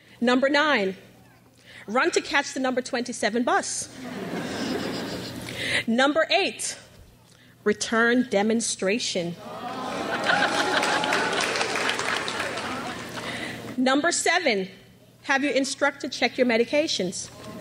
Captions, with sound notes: Number nine, run to catch the number 27 bus. (crowd laughs) Number eight, return demonstration. (graduates applaud) Number seven, have your instructor check your medications.